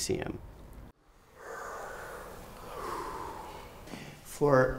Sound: students breathing

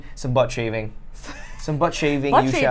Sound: laughs

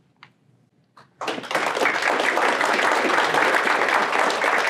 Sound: applause

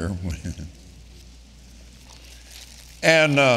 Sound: Kenneth laughing

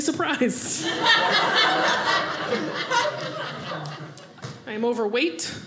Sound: audience laughing

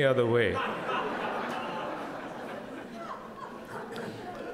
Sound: crowd laughing

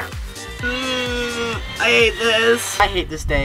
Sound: groaning

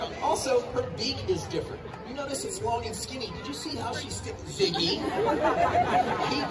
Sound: crowd laughing

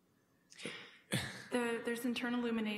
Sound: chuckles

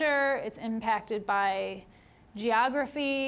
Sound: none

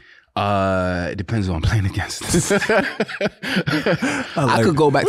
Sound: laughs

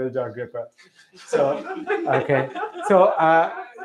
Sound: laughter

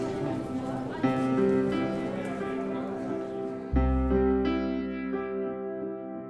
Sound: tranquil piano music; crowd chattering

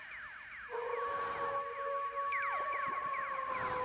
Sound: extraterrestrial noises; wolf howl

